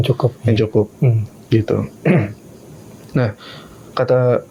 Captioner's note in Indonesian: berdehem